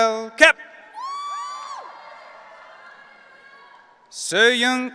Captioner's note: audience cheering